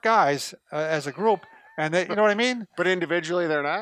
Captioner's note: chuckles